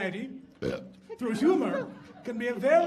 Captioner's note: belching